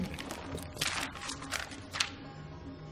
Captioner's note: rustling paper